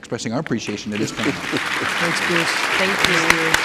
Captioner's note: people clapping